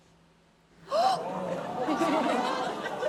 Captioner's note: gasps